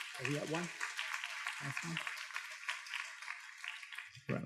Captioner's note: students claps